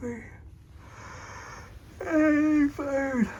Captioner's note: yawns